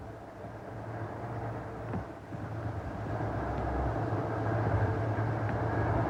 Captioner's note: train passes